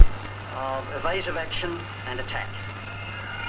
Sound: cricket commentary

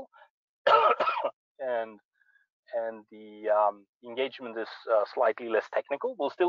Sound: coughs

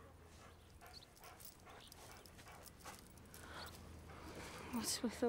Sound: dog panting

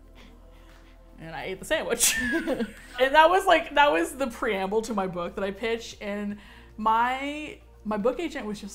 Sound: both laugh

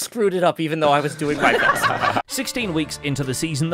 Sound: group laughs

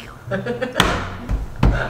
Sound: laughter; slapping

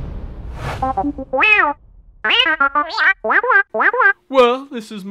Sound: beeps

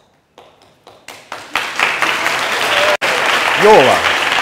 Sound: applause

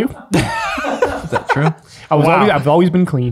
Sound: group laughs

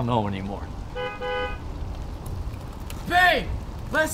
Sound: honking

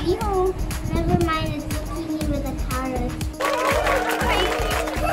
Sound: hahaha!

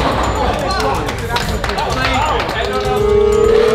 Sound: lads applauding

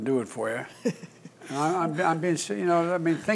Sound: laughter

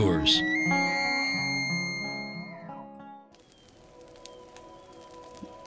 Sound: elk bugle

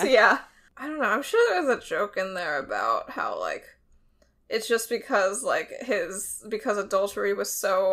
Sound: none

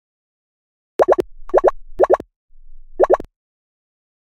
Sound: popping sounds

